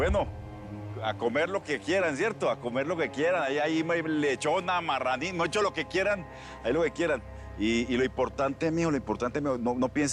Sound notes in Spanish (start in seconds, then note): none